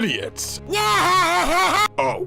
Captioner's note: laughs uncontrollably